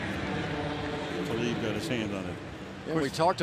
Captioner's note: pa announcement